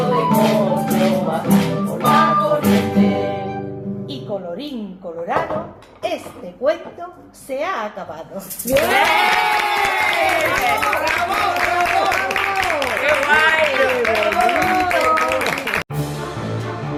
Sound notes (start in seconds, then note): 12.2 applause